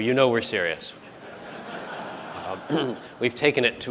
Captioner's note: laughter